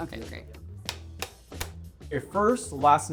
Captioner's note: clapperboard snapping